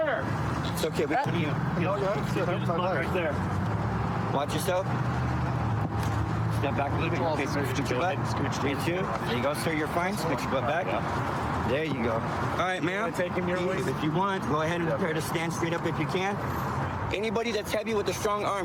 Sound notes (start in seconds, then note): none